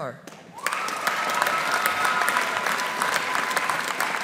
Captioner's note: audience applauding